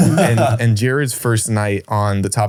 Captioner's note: laughs